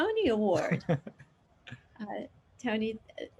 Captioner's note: chuckles